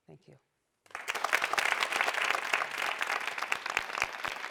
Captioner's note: audience applauds